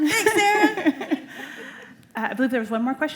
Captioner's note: laughter